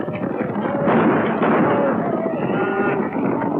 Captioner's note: gunshots